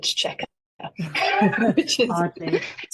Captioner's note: laughing